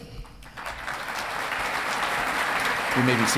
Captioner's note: audience clapping